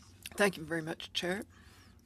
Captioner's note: speaking French